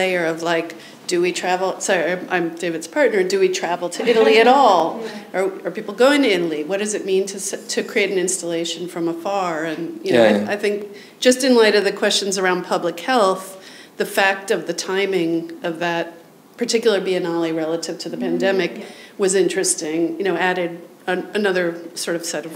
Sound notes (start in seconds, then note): 4.0 audience members chuckle